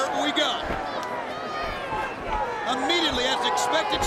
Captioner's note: crowd chattering